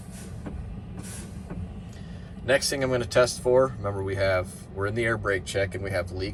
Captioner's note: air whooshing